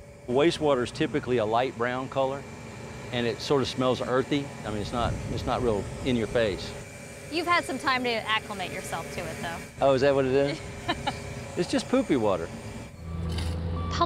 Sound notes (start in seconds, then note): 10.8 laughter